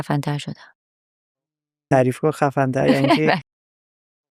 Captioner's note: laughs